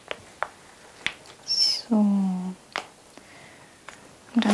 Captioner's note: quietly